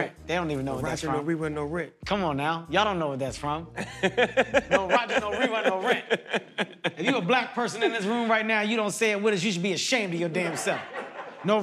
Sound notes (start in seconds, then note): 3.8 laughs